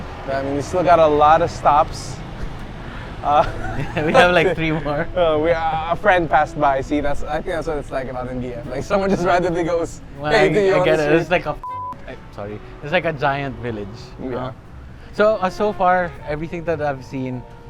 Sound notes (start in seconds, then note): 3.2 chuckles